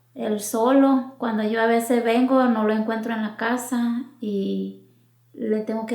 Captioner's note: speaking in foreign language